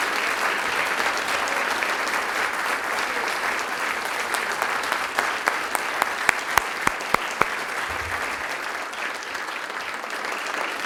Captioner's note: applause